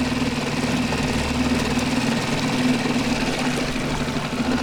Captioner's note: boat motor rumbling